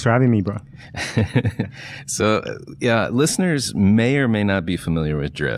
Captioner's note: laughs